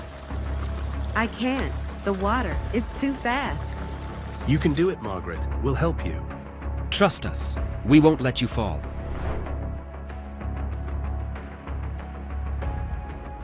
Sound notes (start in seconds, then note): 8.8 transition whooshing; 10.2 suspenseful music continues